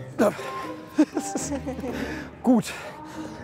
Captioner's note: laughs